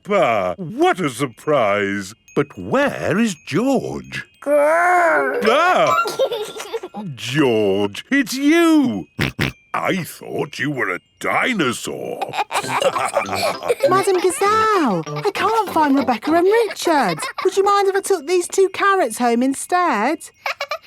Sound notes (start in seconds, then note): 5.0 giggles; 6.1 exclaims; 9.2 snorting; 12.2 all laughing